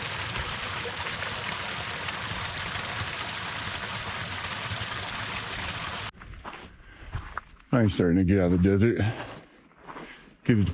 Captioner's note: wind blowing